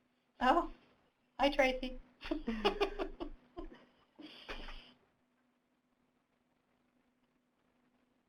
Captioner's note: laughing